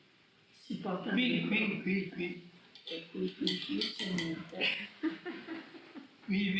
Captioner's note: chuckles